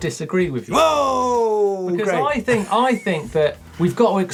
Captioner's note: exclaims loudly; laughs